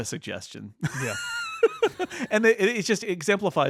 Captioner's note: laughing